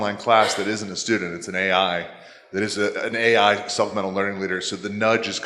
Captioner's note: coughing